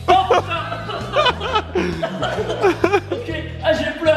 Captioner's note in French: tousse et rire du caméraman